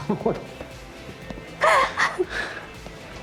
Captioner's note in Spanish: risas